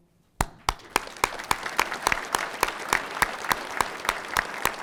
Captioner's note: audience applauding